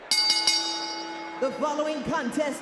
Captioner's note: bell rings